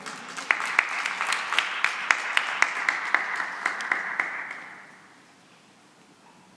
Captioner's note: applause